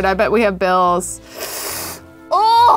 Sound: inhales sharply

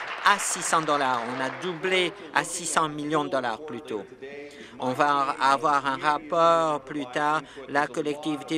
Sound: applause

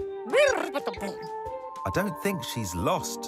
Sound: electronic chattering

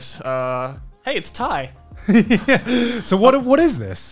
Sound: laughs

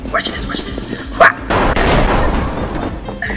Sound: door kicks

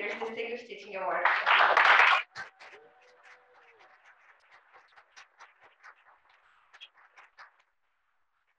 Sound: applause

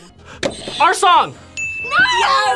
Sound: buzzer rings; bell rings

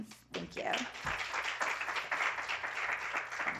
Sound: applause

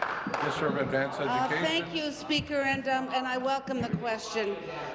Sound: applause

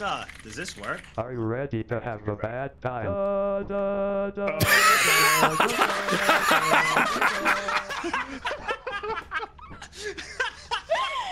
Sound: Microsoft Sam voice

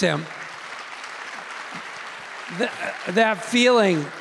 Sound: audience clapping

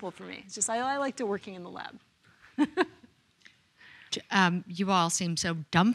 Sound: chuckles

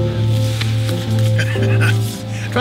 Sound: laughing

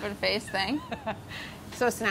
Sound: laughs

